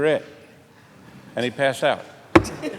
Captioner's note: laughter